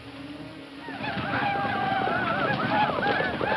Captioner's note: shouting ecstatically; hooves thumping